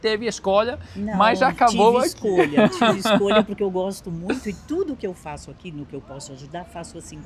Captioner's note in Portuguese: risadas